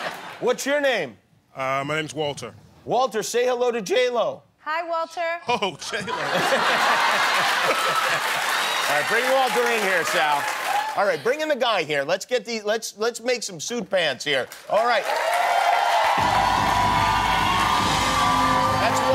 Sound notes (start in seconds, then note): 6.3 cheering; 14.7 cheering